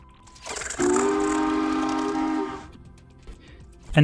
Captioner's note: choo-choo sound